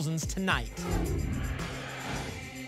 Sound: whoosh

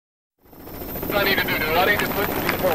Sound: helicopter flying; crowd clapping

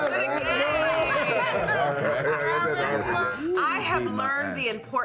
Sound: group laughs

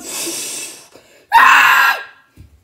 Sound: seismo screaming

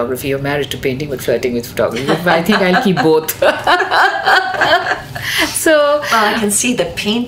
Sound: both laugh

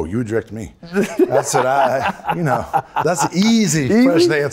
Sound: Michael laughs

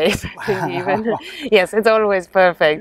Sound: laughs

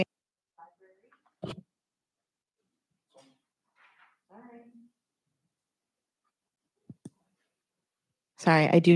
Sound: microphone cuts out

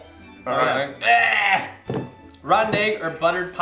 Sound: retches

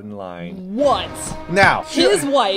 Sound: in an "I told you so" tone; dramatic music

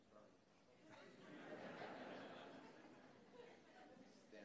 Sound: laughter

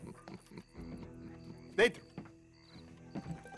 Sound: in Italian

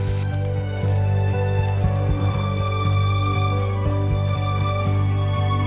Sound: footsteps crunching

